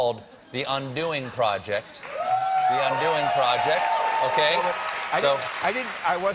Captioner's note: cheers and applause